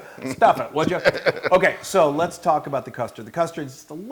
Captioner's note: laugh